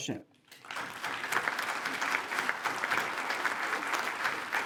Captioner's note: attendees applaud